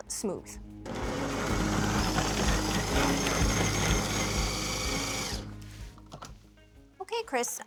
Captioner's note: whirring